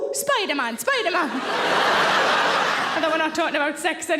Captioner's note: audience laughing